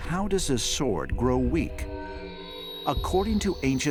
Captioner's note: warped sound